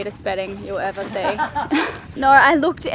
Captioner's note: laughing